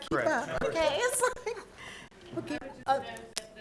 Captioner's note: chuckling